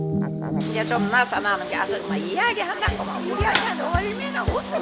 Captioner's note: bong